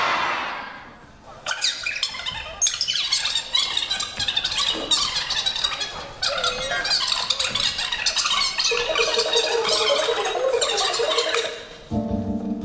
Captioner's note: rewinding tape noise